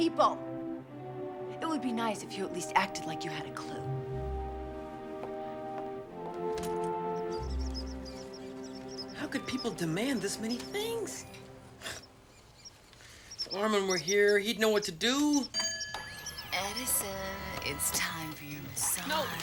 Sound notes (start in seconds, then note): 7.4 squeak squeak